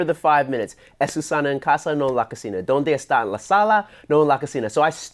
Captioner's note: speaks Spanish